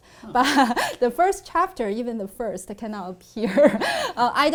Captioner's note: laughs